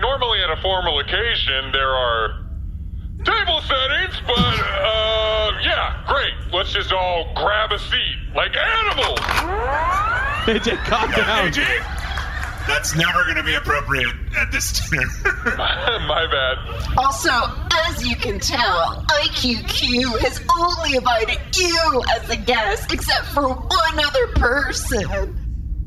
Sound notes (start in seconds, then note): 9.1 charges blaster